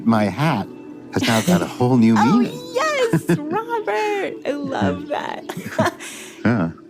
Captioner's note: laughs